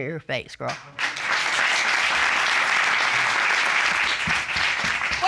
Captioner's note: applause